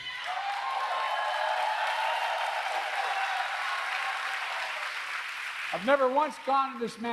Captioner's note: applause